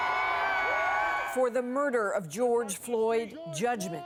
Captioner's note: cheers and applause